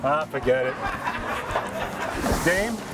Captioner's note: off-screen laughter